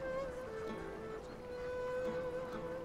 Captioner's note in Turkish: none